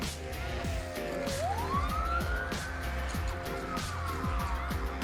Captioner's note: siren wailing